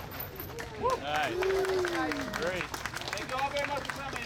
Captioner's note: cheers and applause from the crowd